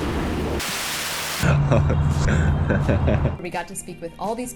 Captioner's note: laughs